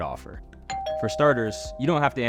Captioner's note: doorbell rings